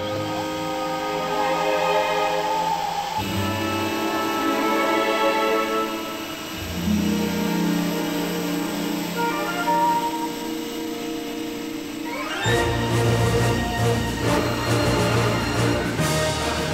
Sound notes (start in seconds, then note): 0.2 bright instrumental music; 2.7 machine whirring; 12.5 dramatic instrumental music